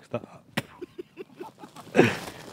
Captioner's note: loughing